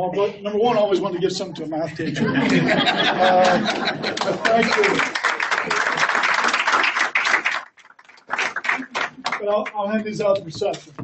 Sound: laughs & applause

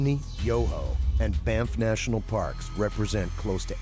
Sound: voiceover

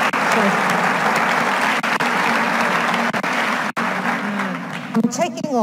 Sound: audience applauding drowns out voice

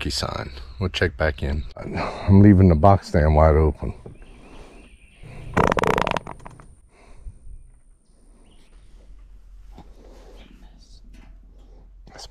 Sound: fart

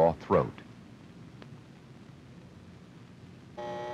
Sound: man shuffling through record albums; alarm clock buzzing

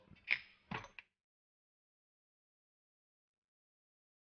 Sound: items clinking

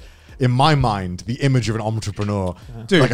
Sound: laughs

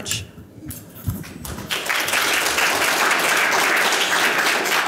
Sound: audience applause

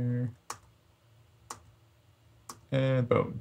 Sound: keyboard clicks

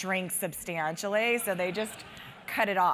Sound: laugh

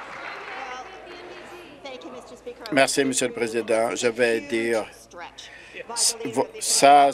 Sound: some Applause

